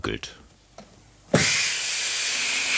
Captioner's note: hissing